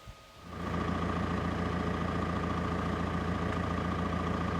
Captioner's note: engine purrs